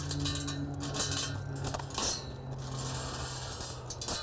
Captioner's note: gate clinking